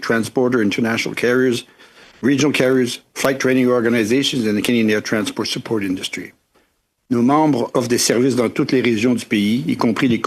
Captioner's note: audio incredibly fuzzy